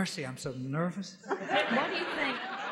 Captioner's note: laughs